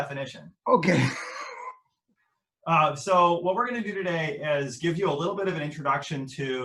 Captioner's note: laughter